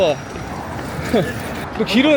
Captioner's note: haha